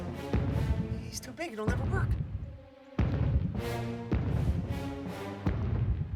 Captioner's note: footsteps thudding, echoing; suspenseful music playing